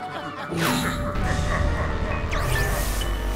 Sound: happy laughter; evil laughter

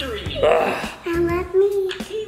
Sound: groan

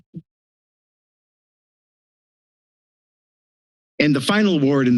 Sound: silence

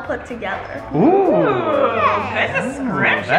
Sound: family exclaims

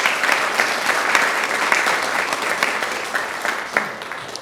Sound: audience claps

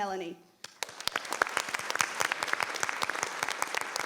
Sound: applause

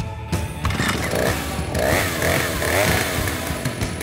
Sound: chainsaw revs

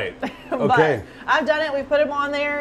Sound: chuckles

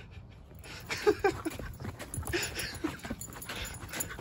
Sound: dad laughing

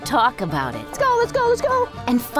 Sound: female voice

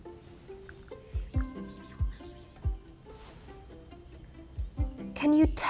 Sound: Bethany and Ziggy whisper

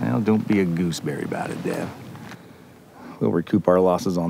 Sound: none

